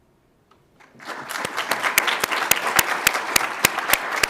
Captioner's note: audience applauds